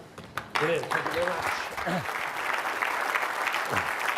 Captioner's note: crowd clapping hands